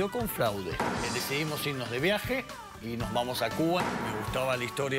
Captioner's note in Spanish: none